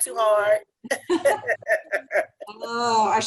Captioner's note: laughter